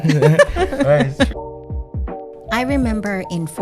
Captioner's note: laughing